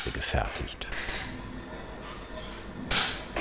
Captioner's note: clattering